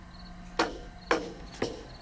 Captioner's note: none